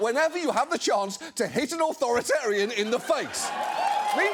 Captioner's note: audience cheering